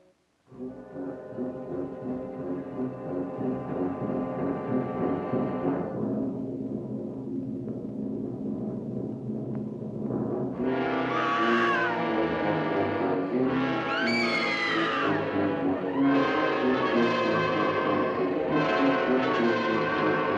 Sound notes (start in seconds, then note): 0.2 loud foreboding music; 10.9 screams; 13.1 loud fast-paced music